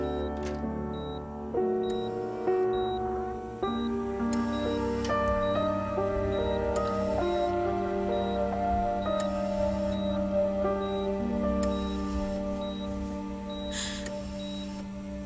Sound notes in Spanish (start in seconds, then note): 0.1 Ruido al abrir la puerta; 4.2 Sonido de telemetría